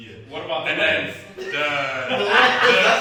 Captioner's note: all laughing